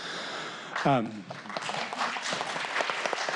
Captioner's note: applause